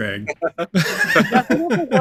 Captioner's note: all laughing